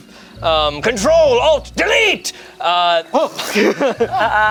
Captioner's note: group laughs